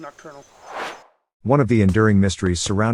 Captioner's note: air swooshes